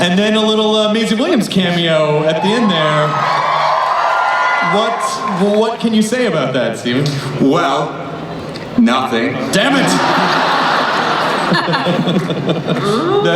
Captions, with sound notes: Then a little Maisie Williams cameo at the end there. What can you say about that, Steven? - Well... Nothing. - [Voiceover] Damn it! (laughing)